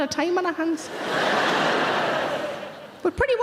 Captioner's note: audience laughing